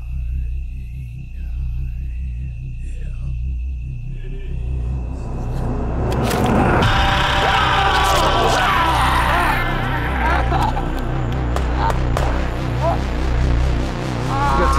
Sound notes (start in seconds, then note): 0.3 mumbling in in unknown language; 6.9 screams; 11.3 gun shots; 14.1 groaning, gurgling